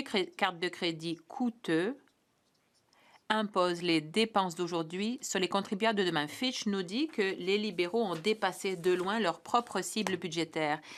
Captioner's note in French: voix de l'interprète